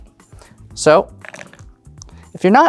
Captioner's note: dice rolling